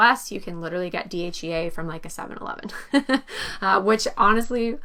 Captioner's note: chuckles